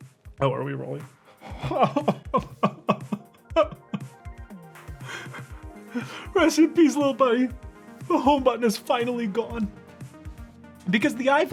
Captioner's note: laughs